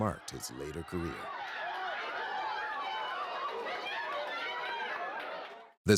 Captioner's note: crowd shouts